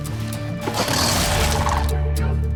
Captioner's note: crocodile roars; tranquil music playing